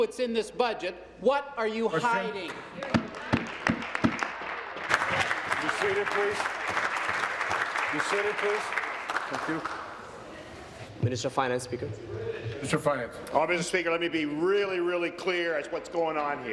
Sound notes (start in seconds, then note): 6.2 applause